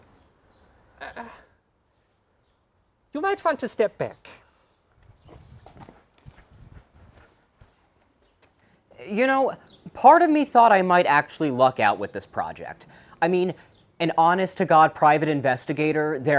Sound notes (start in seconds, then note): 1.0 Weiss gasps